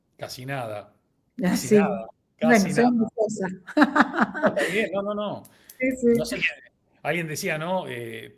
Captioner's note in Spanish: risas